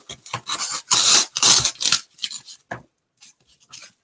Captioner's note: foam crunching